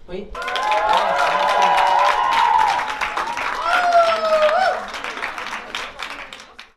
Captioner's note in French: Applaudissements